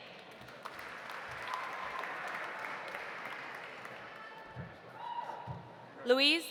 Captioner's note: audience applauding; audience cheering